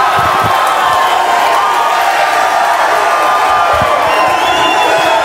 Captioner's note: audience cheering